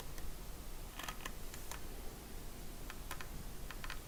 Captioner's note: creaking